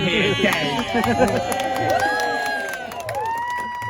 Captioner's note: whooping and cheering